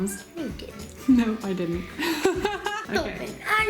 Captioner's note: laughing